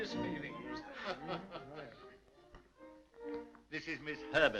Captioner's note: laughing